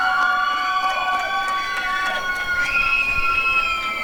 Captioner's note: applause and cheering